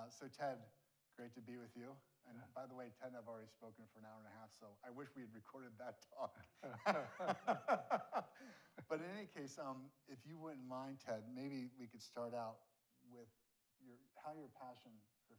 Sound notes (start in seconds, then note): 6.6 both laughing